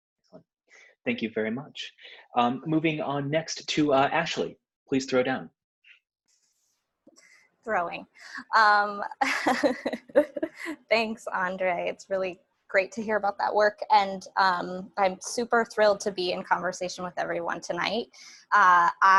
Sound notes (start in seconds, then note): 9.3 chuckling